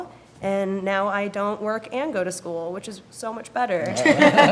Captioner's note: laughing